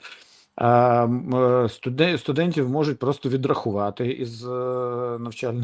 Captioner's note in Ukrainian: сопіння